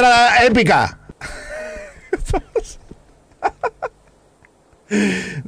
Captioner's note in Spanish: mas risas